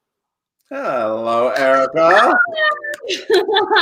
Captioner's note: clapping; laughing